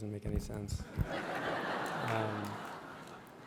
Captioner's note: laughter